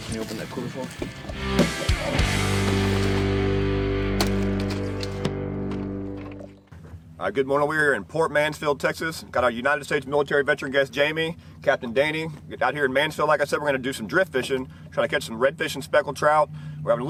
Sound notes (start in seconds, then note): 2.3 rock music fades; 3.9 fish slaps